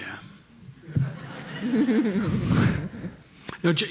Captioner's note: panelists and audience laughing